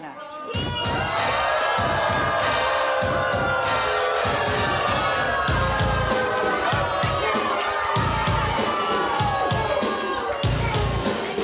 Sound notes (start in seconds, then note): 1.9 audience boos; 1.9 hip-hop music